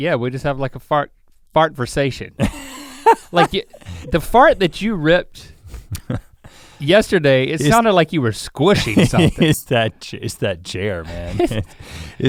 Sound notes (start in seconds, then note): 2.4 laughs; 11.0 chuckles